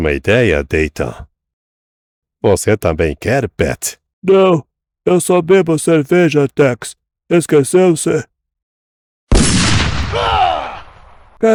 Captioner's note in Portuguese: grito